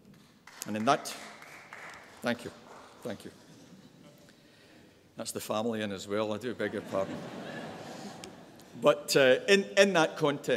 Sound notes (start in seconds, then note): 0.4 audience applause; 6.6 audience laughs